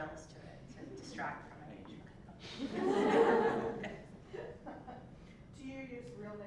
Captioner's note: laugh